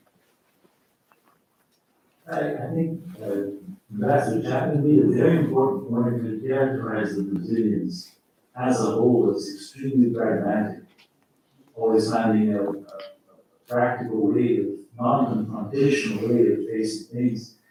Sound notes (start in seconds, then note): 4.3 faintly speaking